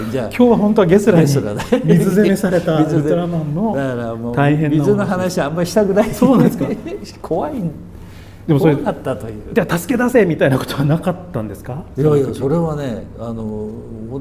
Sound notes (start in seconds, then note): 5.8 laughs